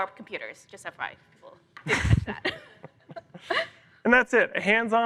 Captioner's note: laughter